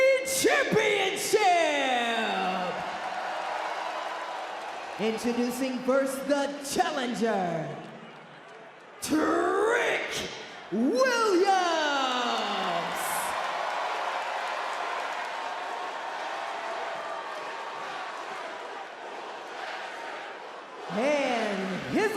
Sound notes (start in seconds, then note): 12.8 crowd cheers; 18.4 crowd chants